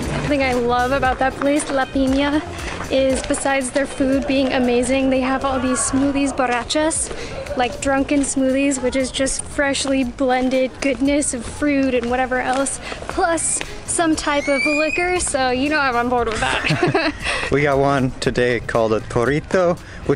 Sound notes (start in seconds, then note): 16.4 laughter